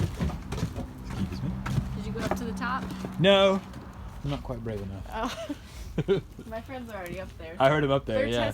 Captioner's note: laughing